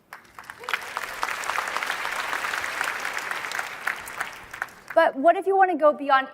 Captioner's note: applause